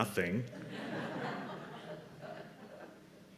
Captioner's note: laughter